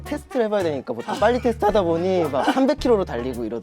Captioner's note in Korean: 삑사리